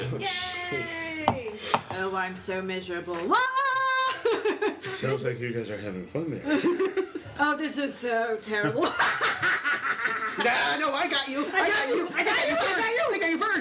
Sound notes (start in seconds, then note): 3.4 screams in delight; 8.9 laughs maniacally